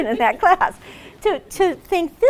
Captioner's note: laughs